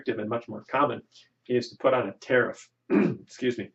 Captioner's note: clears throat